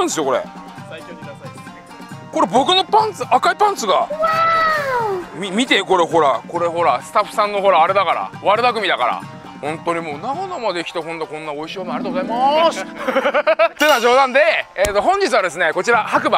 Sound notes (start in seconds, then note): 12.9 haha